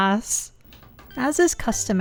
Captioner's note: remote click